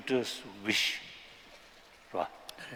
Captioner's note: non-english